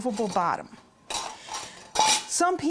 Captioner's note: metal clanking